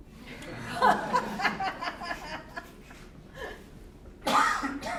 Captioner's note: audience laughing